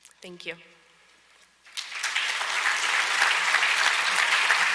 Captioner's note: audience applauds